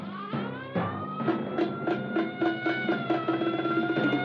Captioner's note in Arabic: صفارة الإنذار تصرخ